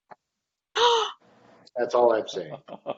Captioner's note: gasps